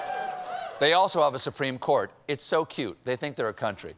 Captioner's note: applause